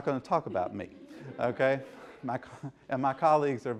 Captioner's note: laughter